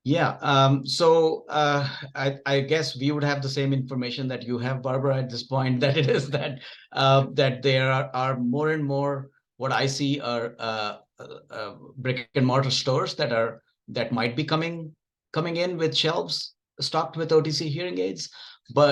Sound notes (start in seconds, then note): 5.8 chuckles